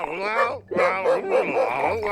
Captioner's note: barking